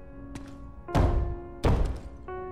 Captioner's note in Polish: Stukanie